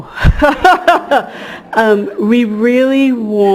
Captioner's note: laughter